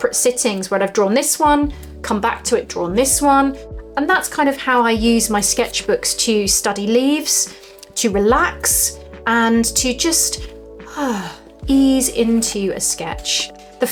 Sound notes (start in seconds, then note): 10.7 sighs